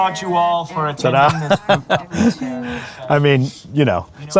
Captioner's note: laughing